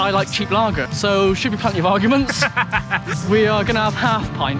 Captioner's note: laughter